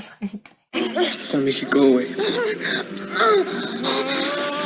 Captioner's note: gasping